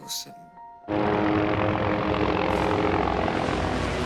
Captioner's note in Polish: odgłosy wojny